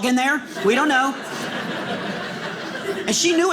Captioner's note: audience laughing